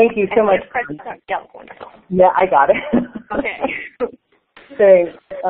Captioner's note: laughing